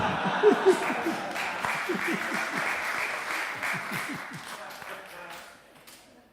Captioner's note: applause